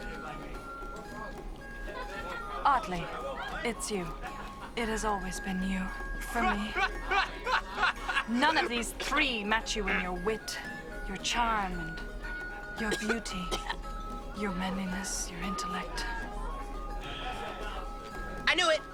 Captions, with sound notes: Otli, it's you. It has always been you for me. - (laughing) - None of these three match you in your wit, your charm and your beauty. (coughing) Your manliness, your intellect. - I knew it!